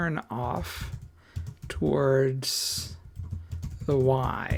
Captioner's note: typing